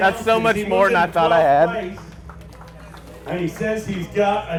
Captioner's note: applause